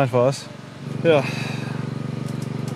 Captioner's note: generator whirring in the background